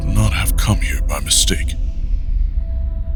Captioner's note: spooky whispers